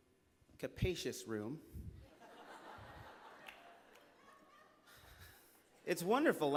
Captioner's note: laughter